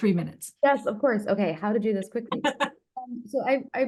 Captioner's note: laughing